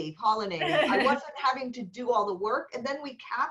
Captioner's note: laughter